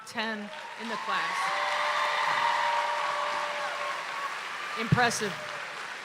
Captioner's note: audience applauds and cheers